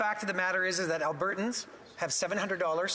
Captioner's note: speaking French